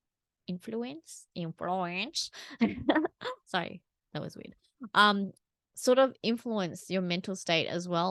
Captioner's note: giggles